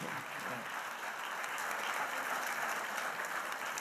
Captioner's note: audience applauds